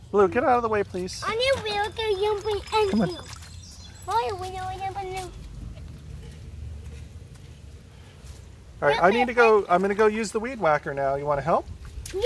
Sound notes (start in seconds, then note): none